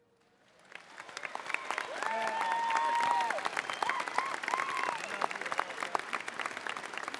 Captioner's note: applause